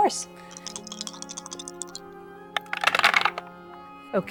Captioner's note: dice rattling